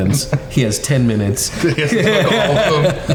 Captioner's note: all laughing